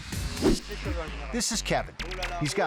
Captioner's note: people speaking in a foreign language